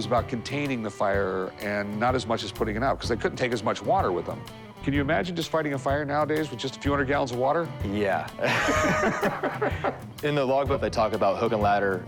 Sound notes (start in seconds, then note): 8.4 laughter